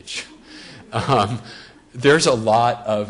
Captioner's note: audience laughs